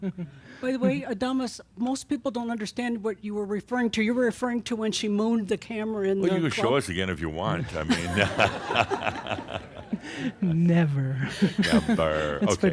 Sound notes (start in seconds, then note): 7.7 laughter; 11.2 more chuckles; 11.3 she chuckles